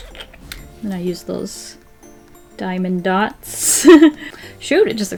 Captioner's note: laughs